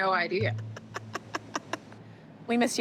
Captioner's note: laughing